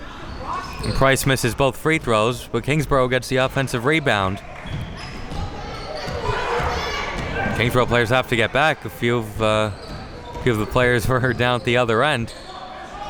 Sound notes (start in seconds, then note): 3.8 spectators shouting